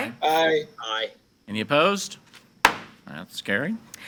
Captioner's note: gavel bangs